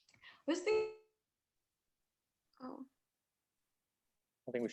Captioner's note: audio cuts out